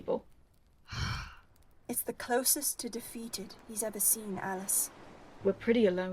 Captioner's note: Alice sighs